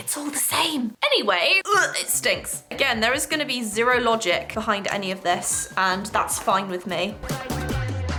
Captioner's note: gags